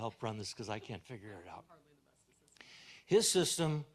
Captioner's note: assistant speaks faintly